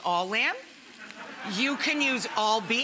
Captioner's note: audience laughing